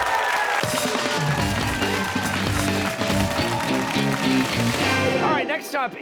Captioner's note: cheers and applause